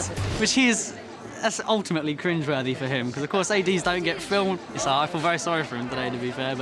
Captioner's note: none